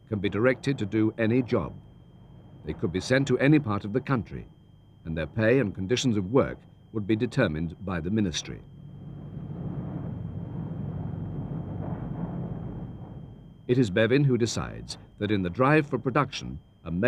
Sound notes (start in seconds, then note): 10.7 fire roaring